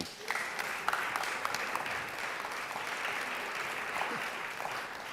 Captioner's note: applause